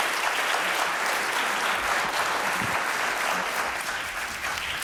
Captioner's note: applause